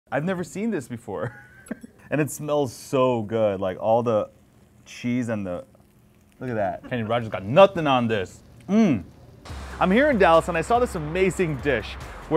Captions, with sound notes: - I've never seen this before. (chuckles) And it smells so good, like all the cheese and the... Look at that. Kenny Roger's got nothing on this. Mmm! I'm here in Dallas and I saw this amazing dish